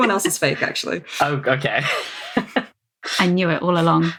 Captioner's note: laughs